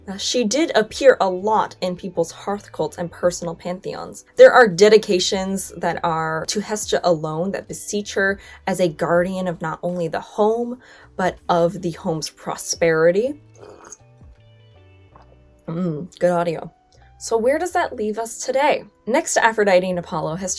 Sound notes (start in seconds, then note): 13.4 slurps and swallows